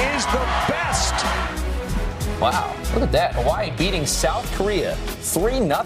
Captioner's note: cheers and applause